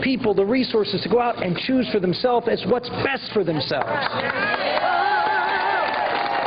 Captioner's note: applause